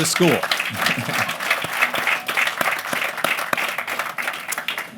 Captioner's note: applause